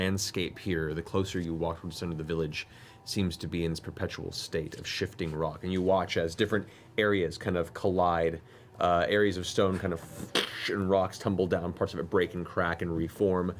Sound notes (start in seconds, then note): 10.3 cracking noise